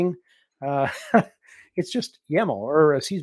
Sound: laughs

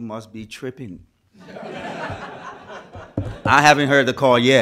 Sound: crowd laughs

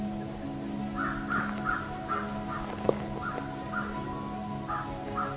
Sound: bird chirping

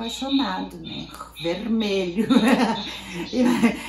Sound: laughs

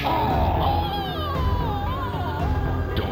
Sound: groans

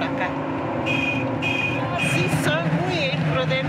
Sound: car horn honking; speaking in foreign language

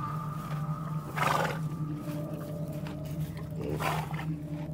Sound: horse neighing

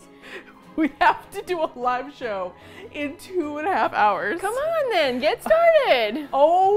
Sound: laughs

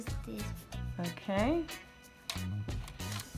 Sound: voiceover

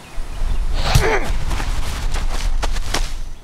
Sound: punch

